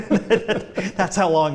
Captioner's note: laughter